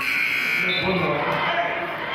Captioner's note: buzzer sounding